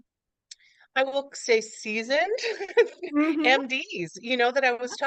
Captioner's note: laughs